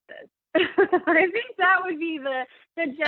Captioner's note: laughing